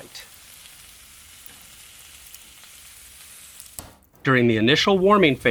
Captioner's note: steak sizzles on grill